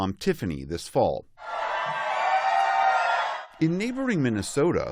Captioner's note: cheering